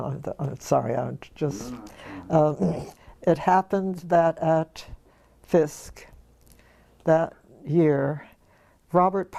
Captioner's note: laugh